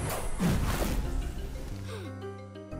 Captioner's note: fire roars; gasps